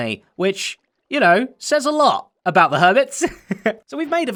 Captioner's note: chuckles